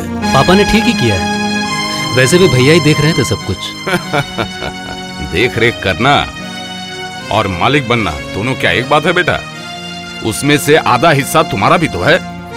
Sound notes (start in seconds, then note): 3.8 laughs